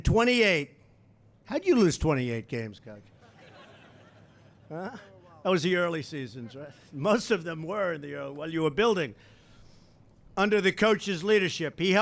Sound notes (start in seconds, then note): 3.1 laughter